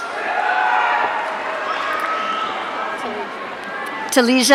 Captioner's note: audience cheering